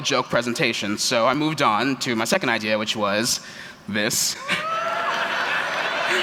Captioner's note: laughter